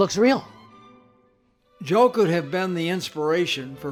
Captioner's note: voiceover